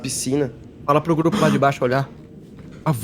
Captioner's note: surprised sigh